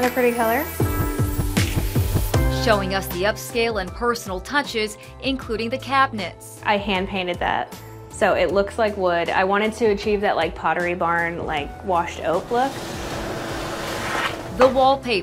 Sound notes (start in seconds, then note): 0.7 classy music intensifies; 12.6 atmosphere humming; 12.8 wallpaper shuffling